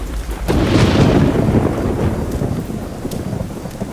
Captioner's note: thunder rumbling